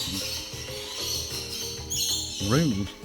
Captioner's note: birds chirping